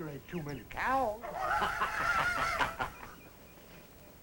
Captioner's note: laughter